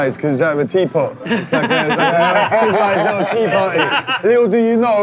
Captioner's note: laughing